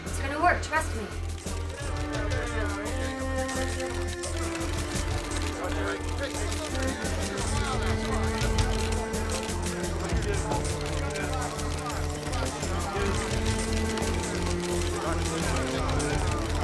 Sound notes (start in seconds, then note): 2.0 cameras clicking